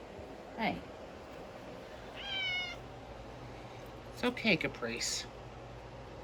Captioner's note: Caprice meows